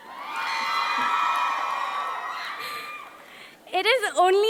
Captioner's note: audience cheering